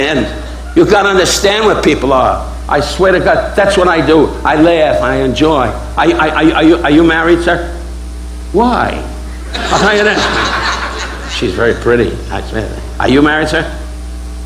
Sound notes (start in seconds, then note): 9.3 audience laughing